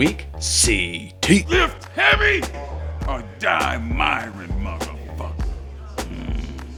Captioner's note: growls